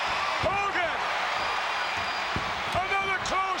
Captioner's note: crowd cheers